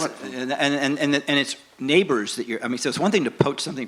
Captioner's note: mumbles